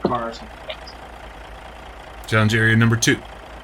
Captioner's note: electrical whirring